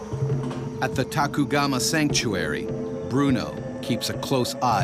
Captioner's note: voiceover